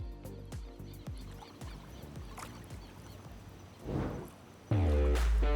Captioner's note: soft music fades; birds chirp softly; water splashing gently; upbeat rock music